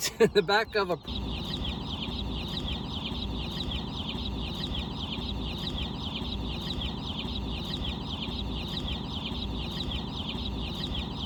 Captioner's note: birds chirping